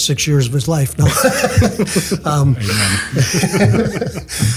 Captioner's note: group laughs